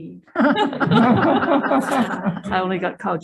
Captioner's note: group laughing